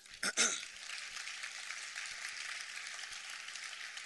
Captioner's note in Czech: potlesk